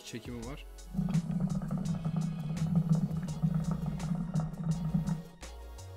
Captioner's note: hookah sound